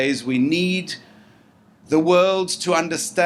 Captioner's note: none